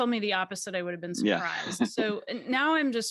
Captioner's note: chuckles